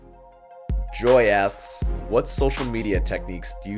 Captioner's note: voiceover